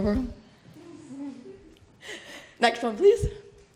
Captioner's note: laughter